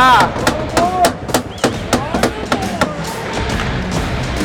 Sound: stick banging

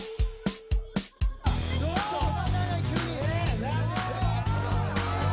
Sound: people speaking Japanese

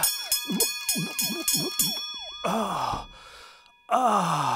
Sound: glug, glug glug

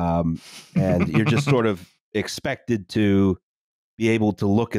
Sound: chuckles

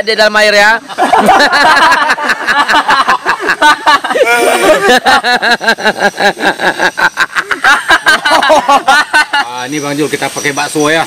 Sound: laughs

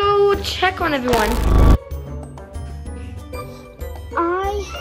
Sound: electric zapping

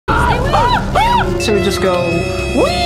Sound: screams

